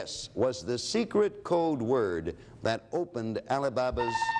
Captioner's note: alarm sounds